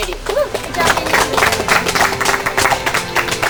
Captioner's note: cheering